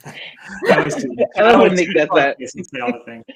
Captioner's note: chuckling